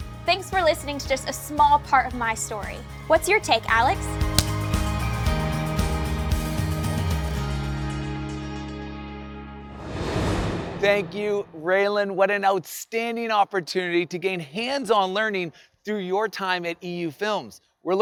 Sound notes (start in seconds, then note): 3.5 clapperboard claps; 5.5 upbeat music; 9.7 air whooshing